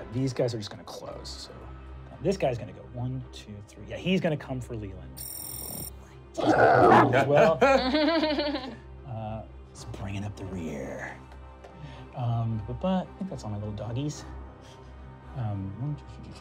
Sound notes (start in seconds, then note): 6.4 deep growl; 8.1 laughing nervously